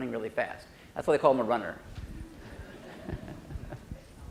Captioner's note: laughs